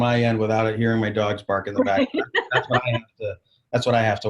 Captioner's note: laughing